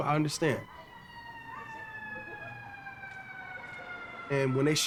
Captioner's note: sirens wailing